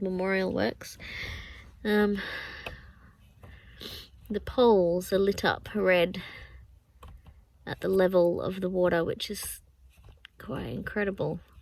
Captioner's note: sniffs